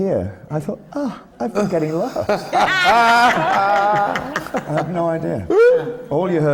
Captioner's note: much laughter from the panel